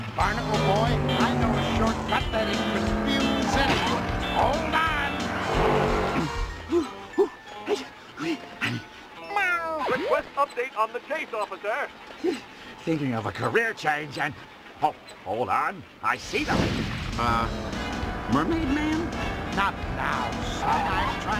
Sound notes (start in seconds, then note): 6.1 breathing heavily; 12.2 breathes